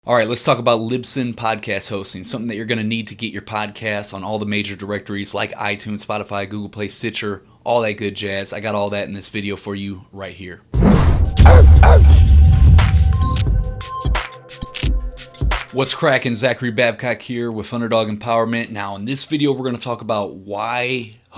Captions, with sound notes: - All right, let's talk about Libsyn podcast hosting, something that you're gonna need to get your podcast on all the major directories like iTunes, Spotify, GooglePlay, Stitcher, all that good jazz. I got all that in this video for you right here. (dog barking) (electronic music) - What's crackin'? Zachary Babcock here with Underdog Empowerment. Now in this video we're gonna talk about why